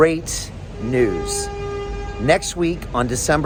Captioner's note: vehicle hooting